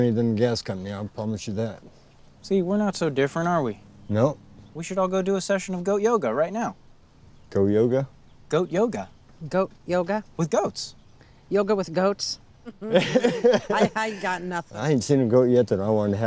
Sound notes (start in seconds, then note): 12.7 laughter